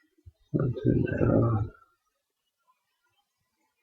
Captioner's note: mumbling to self